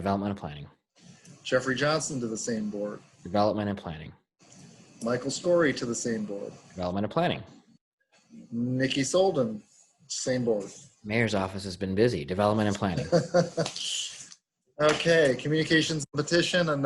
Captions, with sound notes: - Development and Planning. - Jeffrey Johnson to the same board? - Development and Planning. - Michael Skory to the same board? - Development and Planning. - Nikki Soldan, same board. - Mayor's office has been busy, Development and Planning. - (chuckling) Okay. Communications and Petition,